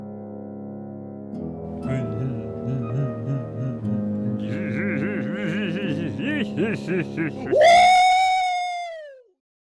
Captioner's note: laugh